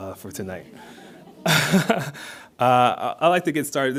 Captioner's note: audience laughs